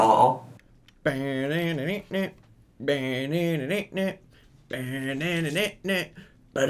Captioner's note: making music sound effects